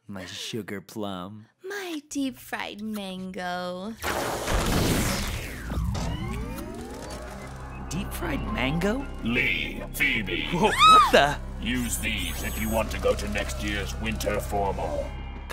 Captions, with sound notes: My sugar plum. My deep fried mango. [LIGHTNING STRIKE] Deep fried mango? Lee. Phoebe. Whoa! What the-- Use these if you want to go to next year's winter formal.